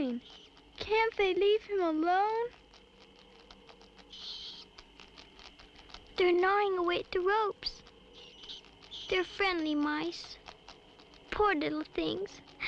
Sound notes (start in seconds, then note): 3.8 chittering